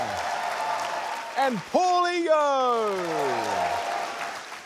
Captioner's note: applause